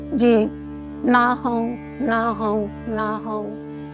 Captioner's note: chanting